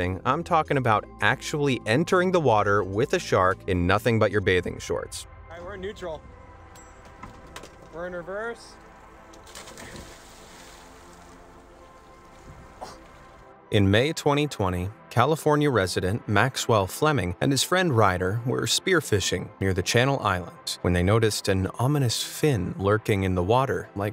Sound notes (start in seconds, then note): 7.7 water splashing